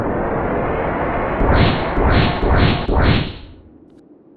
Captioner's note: engines powering; engine thrusting